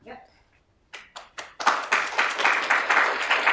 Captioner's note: applause